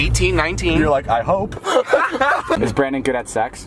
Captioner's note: laughs